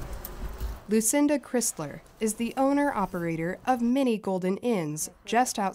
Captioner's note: voice-over